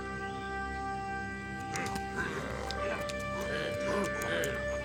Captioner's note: grunting